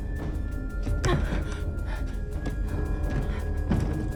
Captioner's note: Bryn huffing